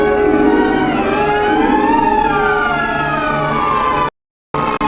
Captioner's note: siren wailing